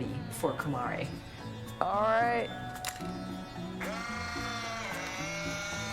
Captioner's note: 快门声; shutter Clicks; camera Whirring; 相机呼呼